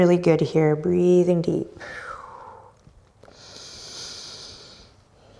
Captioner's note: breathing deeply